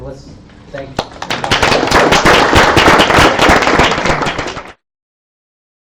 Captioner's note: audience applauding